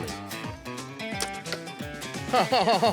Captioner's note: arrow shot; chuckles